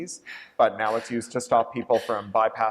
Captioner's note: laughter